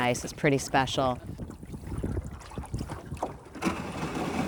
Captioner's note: water rippling; bottom of boat scraping ice